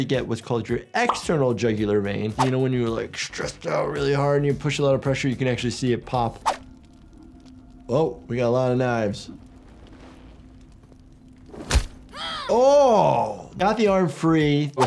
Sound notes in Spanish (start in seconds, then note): 11.7 golpes de roca